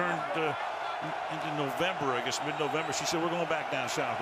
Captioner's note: chuckles